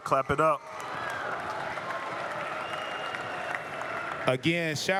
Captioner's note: applause